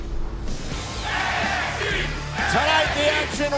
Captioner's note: fans chanting